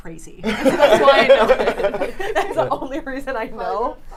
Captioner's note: laughing